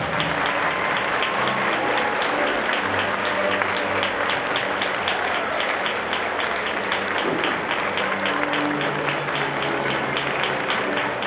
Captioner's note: applause, music